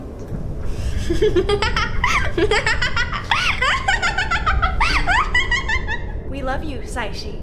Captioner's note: Belladonna giggling then laughing